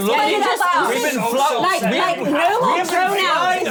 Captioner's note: all yelling